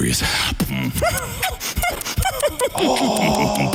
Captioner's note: beatboxing